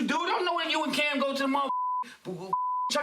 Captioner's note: beep